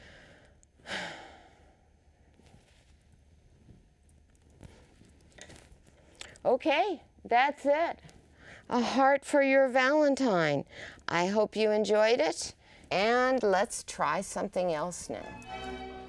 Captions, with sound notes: *(Sigh)*.... OK that’s it. A heart for your Valentine. I hope you enjoyed it, and let’s try something else next.